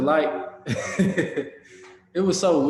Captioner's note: chuckles